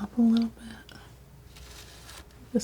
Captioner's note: scratching